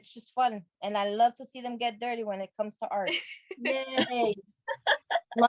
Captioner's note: laughter